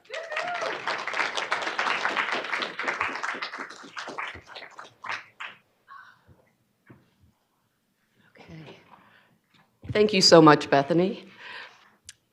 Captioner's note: applause